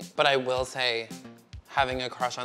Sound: none

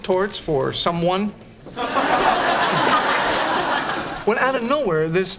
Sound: background laughter

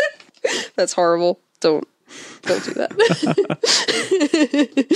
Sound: both laugh; both laugh

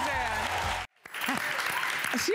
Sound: applause

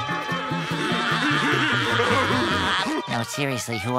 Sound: laughing

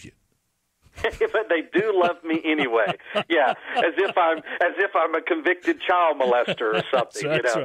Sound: laughter

